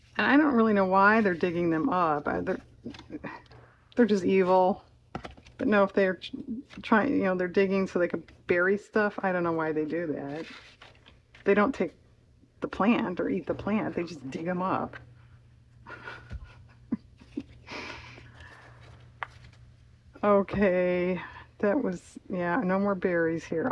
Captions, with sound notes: and I don't really know why they're digging them up, they're they're just evil (laughs), but, no, if they're trying-- they're digging so they could bury stuff, I don't know why they do that, they don't take the plant or eat the plant, they just dig them up (laughs) okay that was-- yeah no more berries here